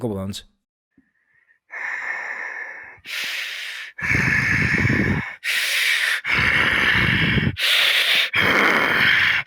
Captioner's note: heavy Breathing